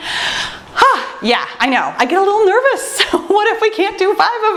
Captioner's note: sighs